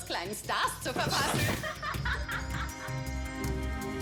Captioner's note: evil laugh